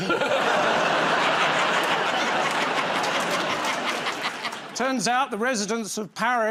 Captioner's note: laughter